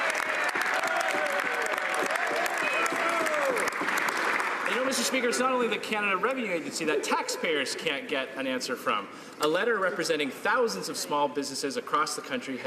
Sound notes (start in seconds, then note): 2.3 some Applause